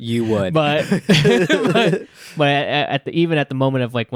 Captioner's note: laughing